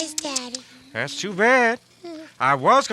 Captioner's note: tsking